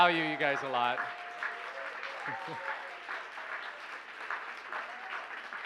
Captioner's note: cheers, applause